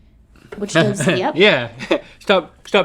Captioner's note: laughs